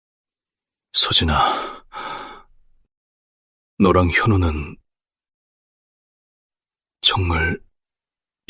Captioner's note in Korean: 한숨